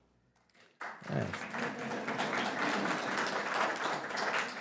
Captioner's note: applause